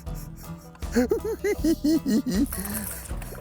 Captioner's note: chuckles